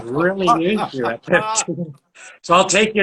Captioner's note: both laugh